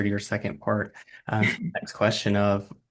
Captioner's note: muffled laugh